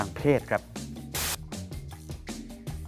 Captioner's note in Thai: เสียงโทรทัศน์